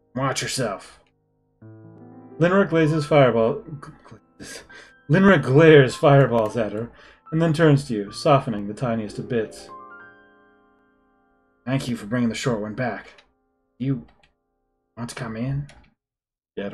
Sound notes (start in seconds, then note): 4.2 laughs softly